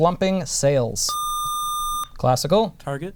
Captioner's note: buzzer